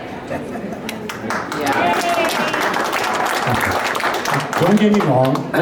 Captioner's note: applause